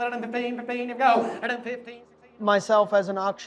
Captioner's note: auctioneer chanting